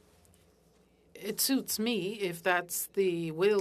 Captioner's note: speaking French